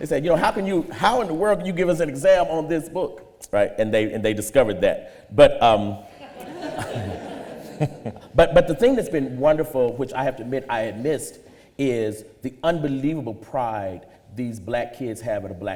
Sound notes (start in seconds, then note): 6.0 audience laughter